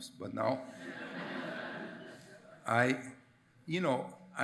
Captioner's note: attendees laugh